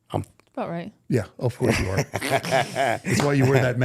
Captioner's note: laughing